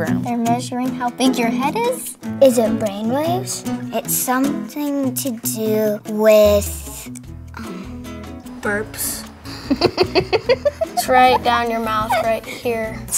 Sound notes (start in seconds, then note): 9.5 laughs